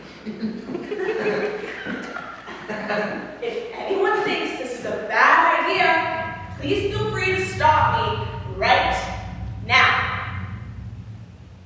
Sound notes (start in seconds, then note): 0.1 audience laugh; 8.8 rumbling sound fades in and out